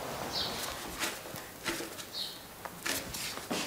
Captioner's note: birds chirping